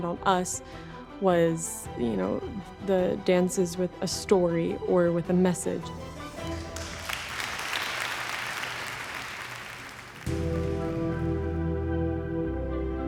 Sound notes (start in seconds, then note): 6.2 crowd clapping